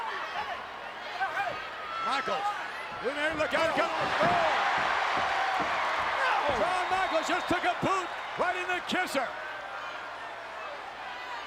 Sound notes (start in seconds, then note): 0.1 crowd chattering; 4.1 crowd cheering